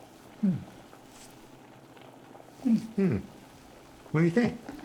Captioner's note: Jesse and Florio make surprised sounds